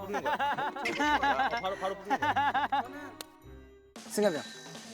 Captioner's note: laughing